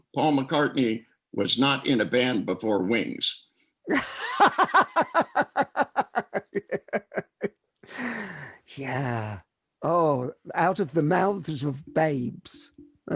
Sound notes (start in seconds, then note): 3.8 laughing